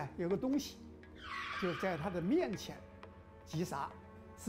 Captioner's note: screeching